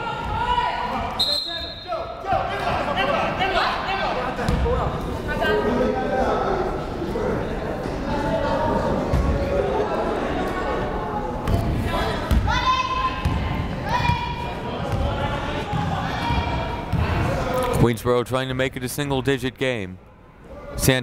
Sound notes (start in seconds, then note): 1.2 whistle blows